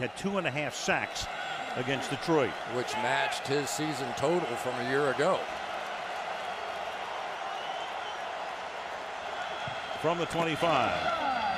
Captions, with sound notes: last week, had two and a half sacks against Detroit. Which matched his season total from a year ago. [cheering] From the 25.